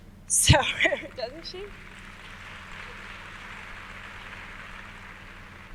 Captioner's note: audience applauds